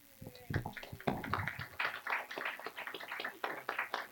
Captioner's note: clapping